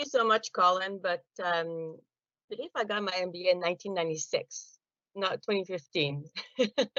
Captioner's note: laughing